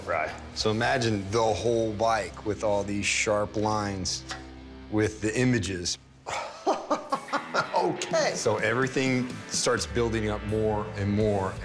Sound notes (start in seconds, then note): 6.3 laughs